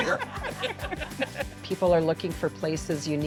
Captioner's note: laughing